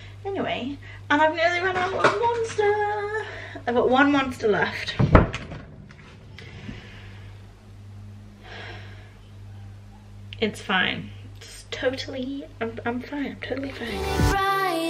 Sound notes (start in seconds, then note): 6.3 big sigh; 13.7 pop music